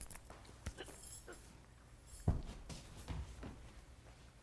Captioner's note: woman gasping